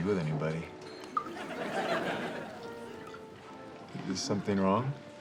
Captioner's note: audience laughs